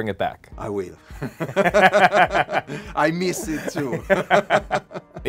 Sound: both laughing

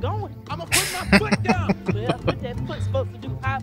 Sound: laughing

